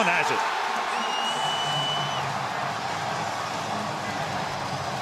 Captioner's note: cheering; upbeat music